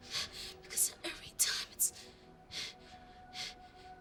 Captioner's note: panting